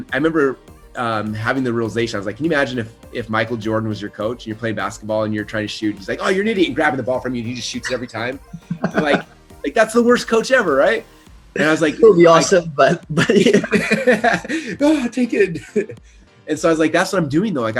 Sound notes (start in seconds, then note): 8.8 laughs; 12.8 both laugh